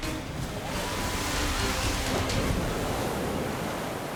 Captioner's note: water plashes